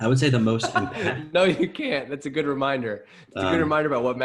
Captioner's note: laughs